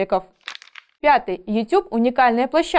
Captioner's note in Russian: Звук переворачивающейся страницы